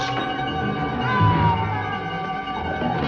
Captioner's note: muffled screaming